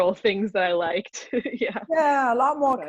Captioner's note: chuckles